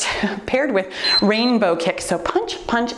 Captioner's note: timer beeps